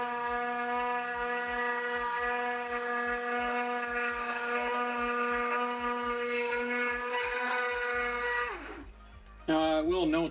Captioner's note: machine whirring